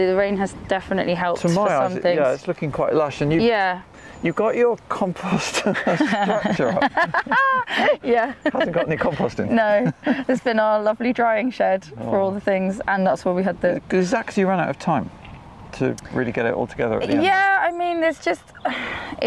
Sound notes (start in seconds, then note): 5.3 laugh